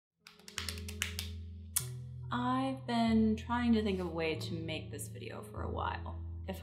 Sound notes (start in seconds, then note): 0.3 hands drumming; 0.4 gentle, melodic music